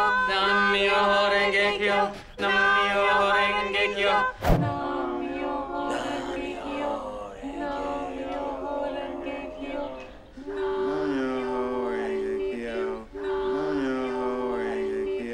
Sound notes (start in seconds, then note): 0.5 chanting; 7.4 exhausted slow sporadic chanting; 11.3 exhausted slow chanting